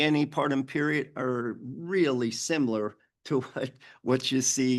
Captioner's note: chuckles